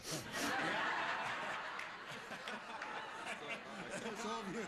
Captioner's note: laughter